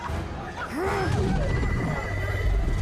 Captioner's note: grunts